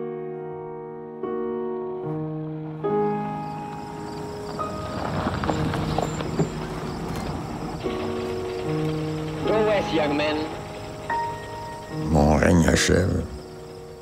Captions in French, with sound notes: (stridulations d'insectes) - Go west, young men! Mon règne achève.